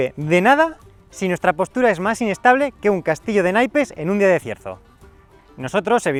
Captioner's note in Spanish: viento